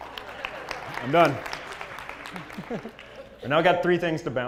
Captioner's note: laugh; applause; laugh